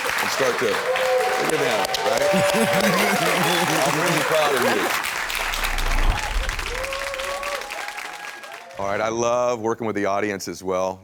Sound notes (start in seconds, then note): 2.2 laughs; 4.1 audience applauds